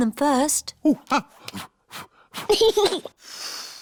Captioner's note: blows; giggles and blows